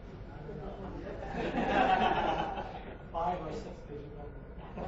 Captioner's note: audience laughing